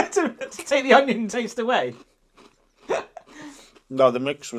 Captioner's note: laughs